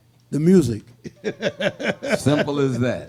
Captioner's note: laughs